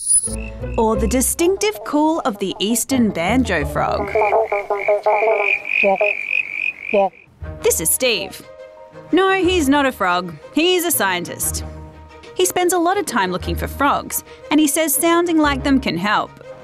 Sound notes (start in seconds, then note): 3.6 imitates frog calls; 4.0 frog croaks like a banjo